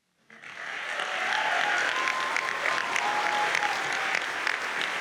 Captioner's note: audience cheers and applauds